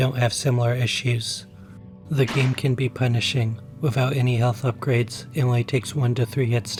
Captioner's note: gun Shot